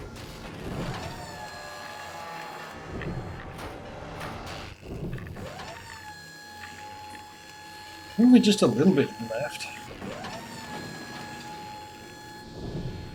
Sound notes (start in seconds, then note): none